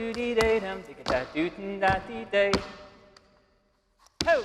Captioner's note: shoes clacking